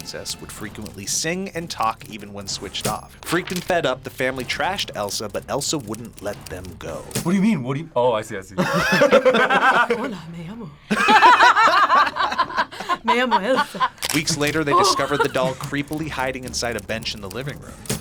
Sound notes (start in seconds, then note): 8.6 both laugh; 14.9 laughs